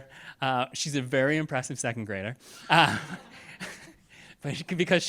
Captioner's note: chuckling